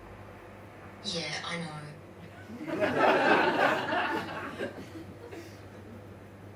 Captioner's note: audience laughs